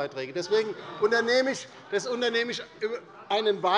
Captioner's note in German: Zurufe von der CDU